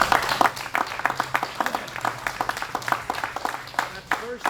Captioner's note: applause